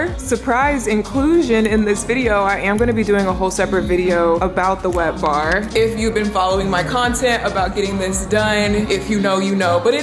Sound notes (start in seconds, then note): none